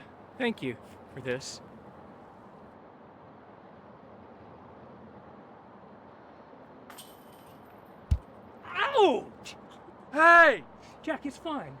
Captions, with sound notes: Thank you for this. [CLANG] -[THUD] -Ouch! -Hey! -Jack it's fine.